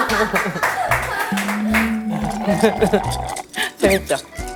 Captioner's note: slurp... Slurp